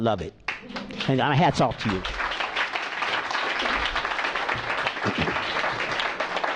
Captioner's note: applause